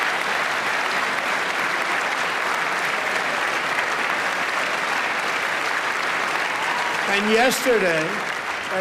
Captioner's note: applause